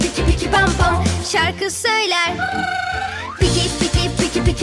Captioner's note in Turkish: Aaaaa